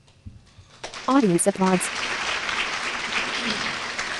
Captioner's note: applause